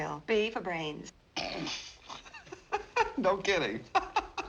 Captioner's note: snorts, laughing